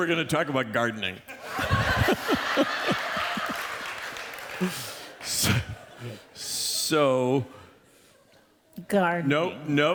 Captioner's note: laughter